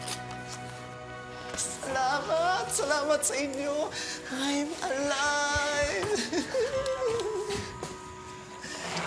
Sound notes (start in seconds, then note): 6.0 giggles